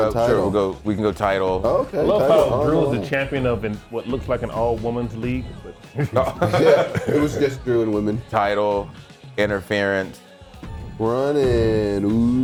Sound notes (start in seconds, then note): 5.6 laugh